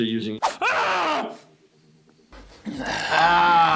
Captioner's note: screams